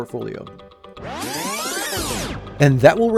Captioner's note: electronic buzzing